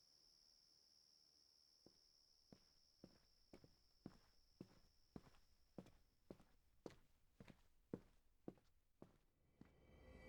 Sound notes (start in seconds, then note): 1.9 footsteps